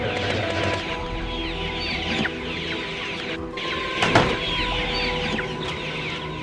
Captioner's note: animals crying; dramatic orchestral music